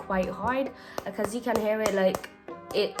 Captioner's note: weird tap